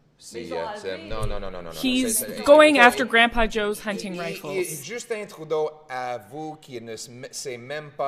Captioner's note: speaking French